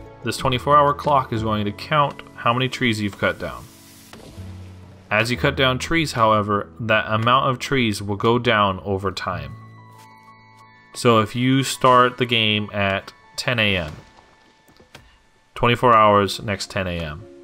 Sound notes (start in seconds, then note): 4.0 tree falling down in background